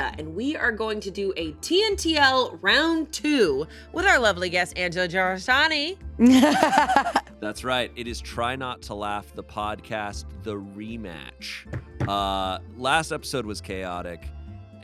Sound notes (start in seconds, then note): 6.2 laughs